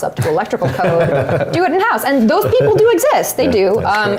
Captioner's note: laugh